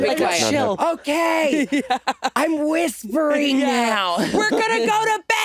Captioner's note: laughing